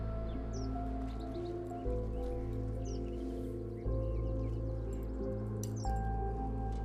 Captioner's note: birds chirp; soft mysterious music